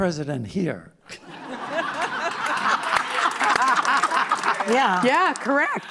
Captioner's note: laughter